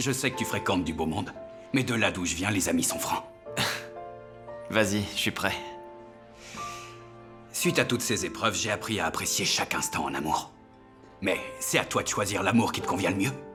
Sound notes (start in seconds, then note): 3.5 sighs